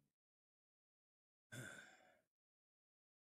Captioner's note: sighs